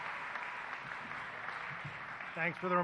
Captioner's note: applause